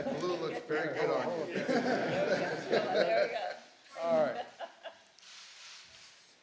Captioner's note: laughter